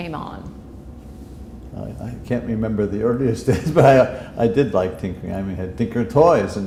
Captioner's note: chuckle